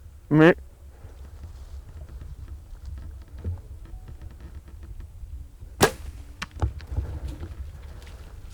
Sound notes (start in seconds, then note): 0.6 bleats; 5.8 bow shoots